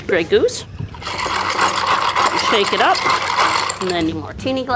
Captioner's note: ice clanking